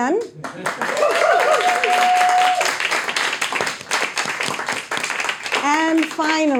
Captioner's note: audience applauding, cheering